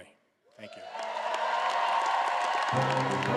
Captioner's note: all applauding and cheering